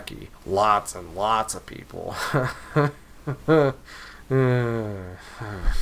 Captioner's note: sigh